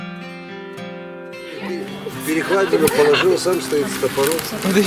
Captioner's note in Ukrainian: сміх